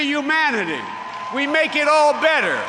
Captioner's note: applause